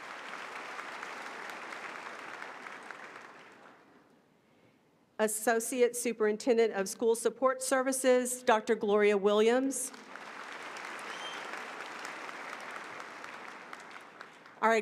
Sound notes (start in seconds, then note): 7.6 applause